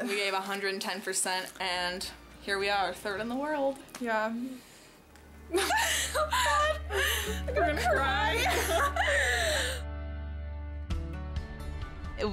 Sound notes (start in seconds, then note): 5.5 laughing; 9.9 inspirational music